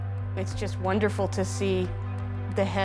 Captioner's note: speaking English